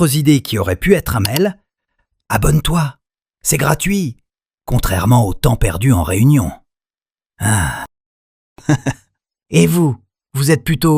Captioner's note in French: rires